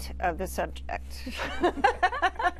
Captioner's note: laughter